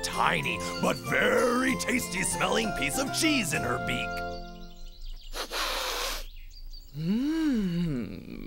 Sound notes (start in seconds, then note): 5.2 sniffs